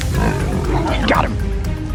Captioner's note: growling